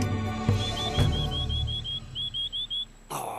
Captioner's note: whistling